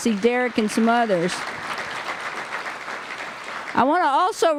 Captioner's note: applause